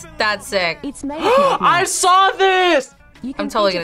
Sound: gasps

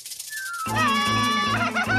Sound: screams

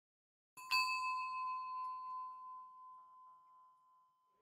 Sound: soft chime

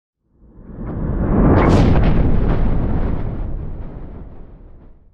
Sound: thunder and lightning

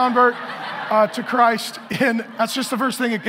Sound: congregation laughing

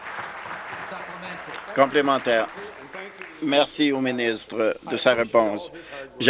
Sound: applause

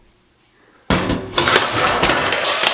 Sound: lid opens loudly

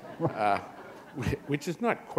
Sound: chuckle

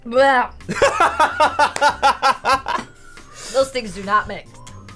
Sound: laughing

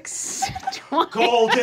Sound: giggling

